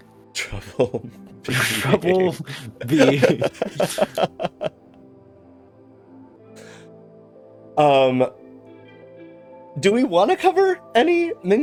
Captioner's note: laughter